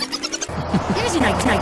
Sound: A mirthless chuckle

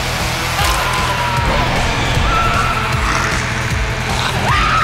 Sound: screaming

